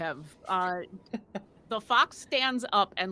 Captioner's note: laughs